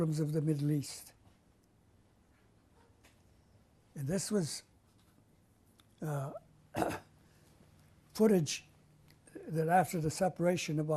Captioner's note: pauses for 3 seconds